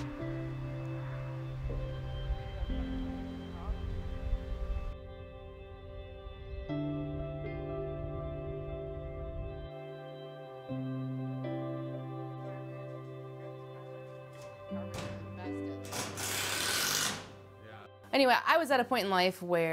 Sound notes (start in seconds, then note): 0.1 gentle upbeat music; 3.9 people speaking in background; 6.5 soft music; 16.0 impact driver whirring